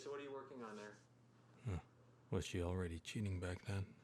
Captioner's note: narrating